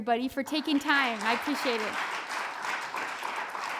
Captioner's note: audience applauds